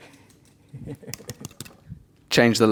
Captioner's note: finger tapping